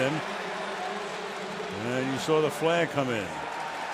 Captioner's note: pa announcement